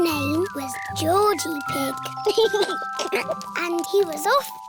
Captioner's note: sniffs